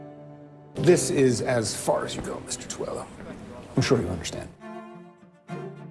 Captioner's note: voiceover